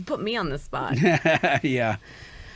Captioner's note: laughs